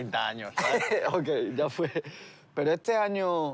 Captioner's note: laughs